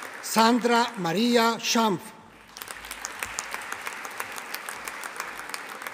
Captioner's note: audience applauding